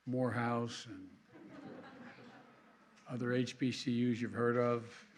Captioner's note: laughter